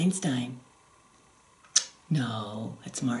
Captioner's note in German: smooch